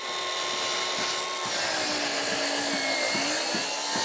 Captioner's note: grinder whizzing